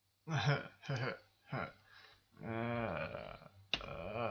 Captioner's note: sigh